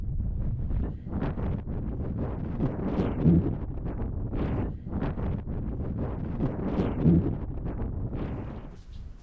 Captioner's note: wind